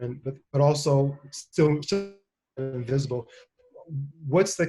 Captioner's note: audio glitch